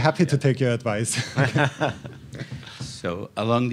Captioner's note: chuckling